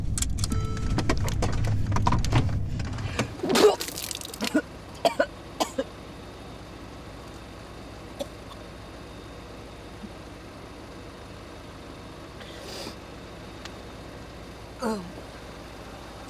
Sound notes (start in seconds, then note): 3.4 Rachel vomiting